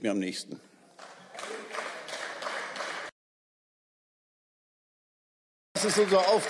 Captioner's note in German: Beifall